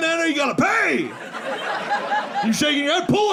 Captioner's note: audience laughing